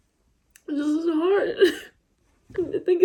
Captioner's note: cries